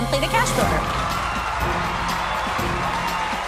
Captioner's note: cheers and applause